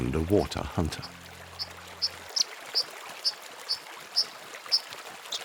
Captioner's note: bird chirping